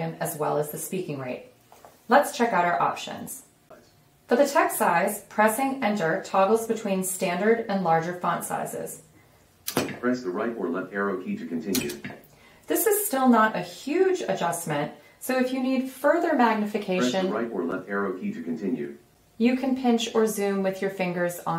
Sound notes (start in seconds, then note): 10.1 voiceover; 17.1 voiceover